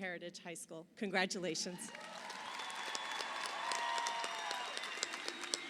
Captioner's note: audience applauding